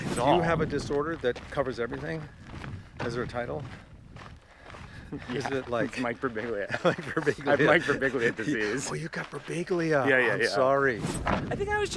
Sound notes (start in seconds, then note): 4.7 both chuckling; 6.6 laughs